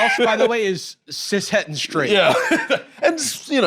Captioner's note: laughs